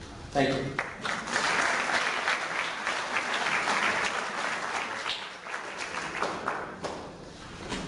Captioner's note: clapping